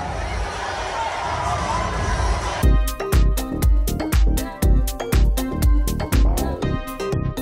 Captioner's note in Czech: Potlesk